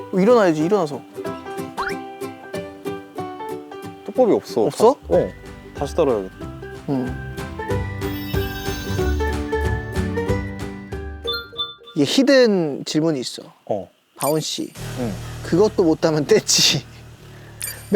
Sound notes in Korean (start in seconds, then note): 11.3 띠링